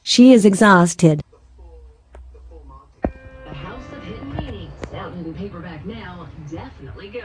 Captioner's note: TV continues playing